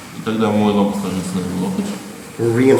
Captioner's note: speaking in a foreign language